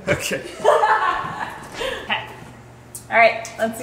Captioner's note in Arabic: أمي تضحك